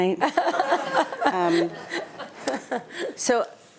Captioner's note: attendees laughing